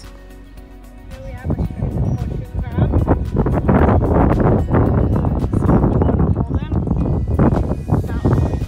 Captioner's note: loud wind